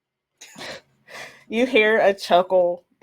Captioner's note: players laugh